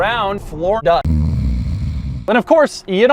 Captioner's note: snoring